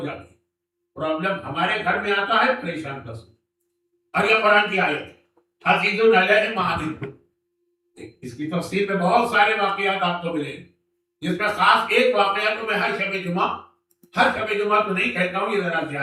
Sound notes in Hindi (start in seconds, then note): 6.7 गला साफ़ करने की आवाज़